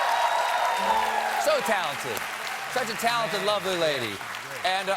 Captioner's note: applause